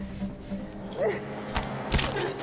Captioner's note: gasps; bone cracks